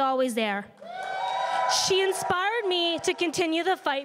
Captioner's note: crowd cheering and applauding